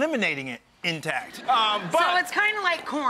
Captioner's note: crowd laughs